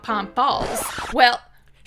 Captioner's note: record scratch